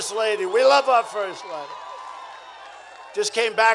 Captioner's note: applause